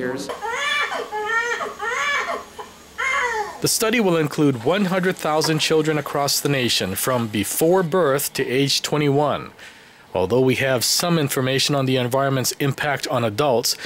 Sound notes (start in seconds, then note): 0.8 newborn baby crying